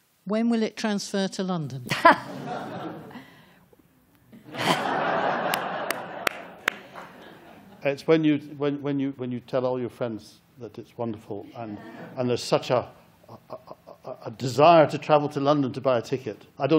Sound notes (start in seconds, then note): 4.4 laughter